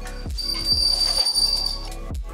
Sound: squeak

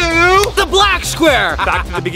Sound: laughs loudly

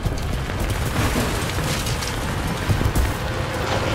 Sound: rocks thudding

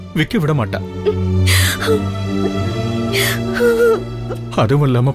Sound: crying

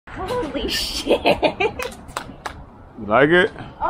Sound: laughs

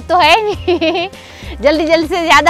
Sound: laughing

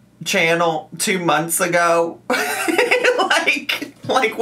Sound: laughs

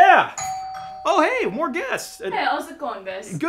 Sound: doorbell rings

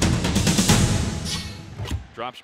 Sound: sound effect

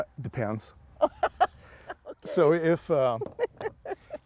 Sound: laughing

